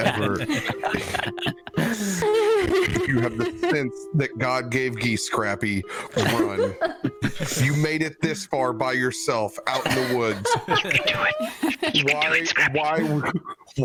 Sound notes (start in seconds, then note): 0.0 all laughter; 1.6 laughter; 10.6 whisper